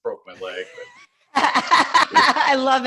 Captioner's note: laugh